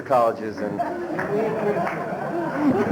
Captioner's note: laughter